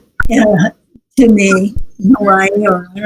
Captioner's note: laughs